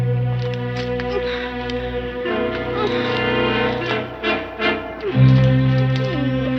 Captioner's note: ominous orchestral music; woman moaning